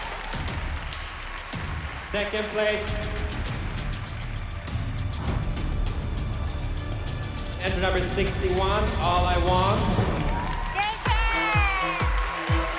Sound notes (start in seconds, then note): 9.8 cheering